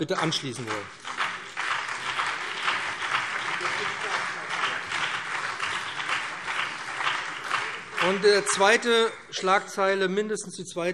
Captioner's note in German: Beifall BÜNDNIS 90/DIE GRÜNEN und vereinzelt SPD